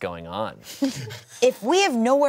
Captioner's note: everyone laughs